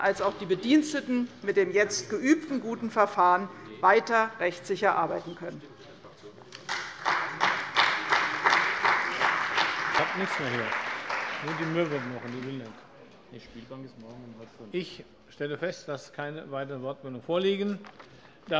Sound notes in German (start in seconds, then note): 6.6 Beifall bei der CDU und dem BÜNDNIS 90/DIE GRÜNEN